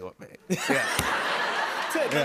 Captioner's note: laughter